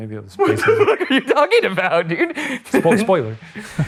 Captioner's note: laughs